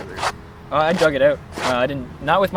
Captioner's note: foot scrapping